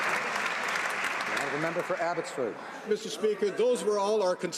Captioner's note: some Applause